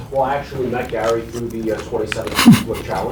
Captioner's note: laughs